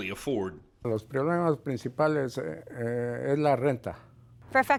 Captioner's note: speaking in Spanish